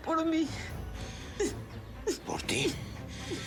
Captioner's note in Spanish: sollozos